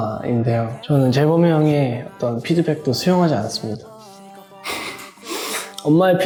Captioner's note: haha